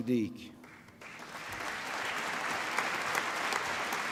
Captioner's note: applause